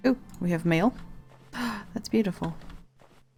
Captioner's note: gasp